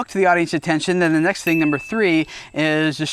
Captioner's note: dinging